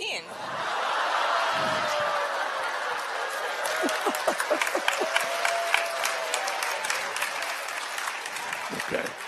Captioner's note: laughter and applause